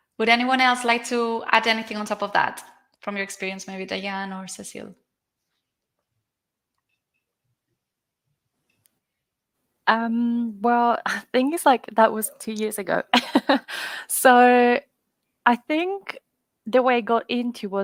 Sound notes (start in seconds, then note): 13.6 laughs